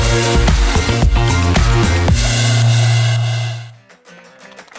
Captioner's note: applause